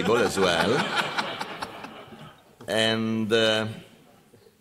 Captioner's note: laughter